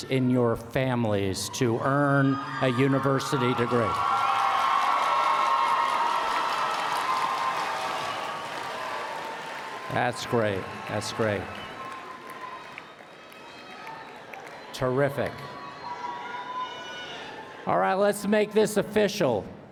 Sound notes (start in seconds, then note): 4.6 applause and Cheering